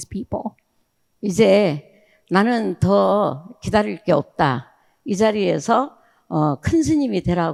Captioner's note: speaking in foreign language